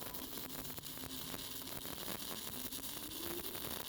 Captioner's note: sparking